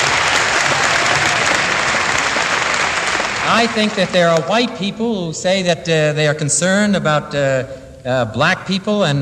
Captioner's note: applause